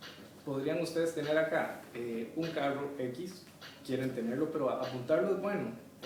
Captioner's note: chunches in CostaRican spanish